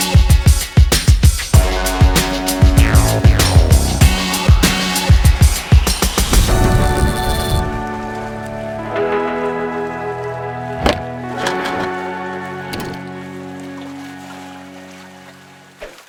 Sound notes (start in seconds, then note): 0.0 exciting electronic music; 6.9 fishing reel spinning; 12.7 waves splashing